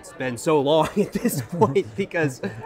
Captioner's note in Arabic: يضحك